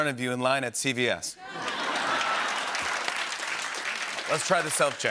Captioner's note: laughter and applause